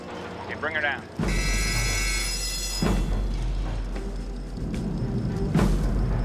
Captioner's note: bell rings